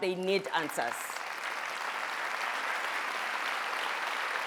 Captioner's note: audience applauding